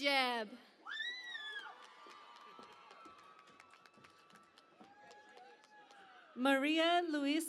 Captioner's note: cheering and Applause